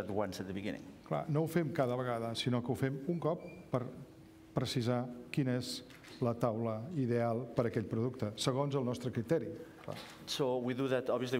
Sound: speaking catalan

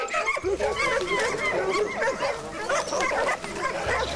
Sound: dogs barking

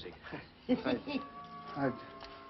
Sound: giggling

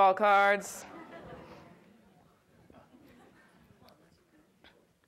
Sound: audience laughs

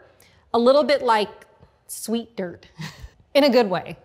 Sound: laughs

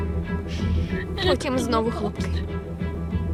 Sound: inhales shakily

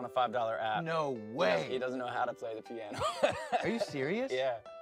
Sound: laughs

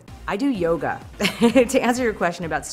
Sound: laughs

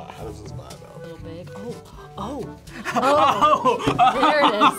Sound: laughs

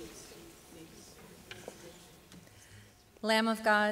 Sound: congregation murmurs

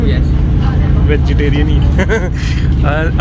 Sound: laugh

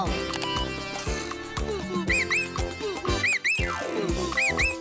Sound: hooting and whistling

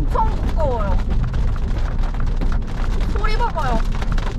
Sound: that sound of rain

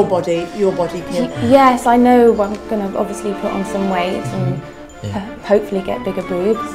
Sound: hesitates

